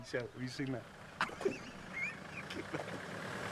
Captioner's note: laughs